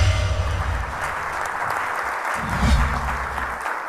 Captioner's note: audience clapping